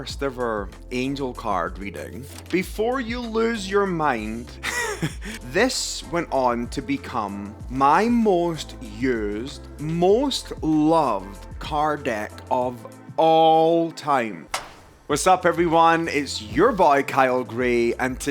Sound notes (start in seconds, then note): 4.6 laughs